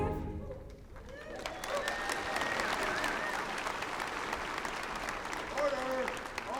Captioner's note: applause